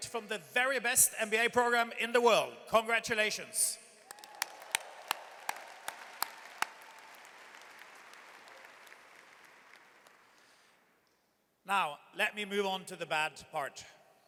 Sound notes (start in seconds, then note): 4.0 audience cheers and applauds